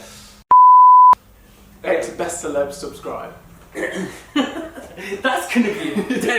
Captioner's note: laughter